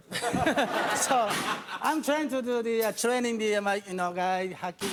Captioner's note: audience laughing